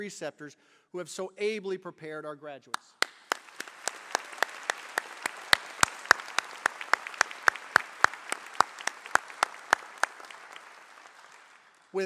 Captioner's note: applause